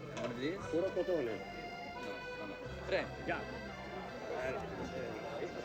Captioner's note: Italian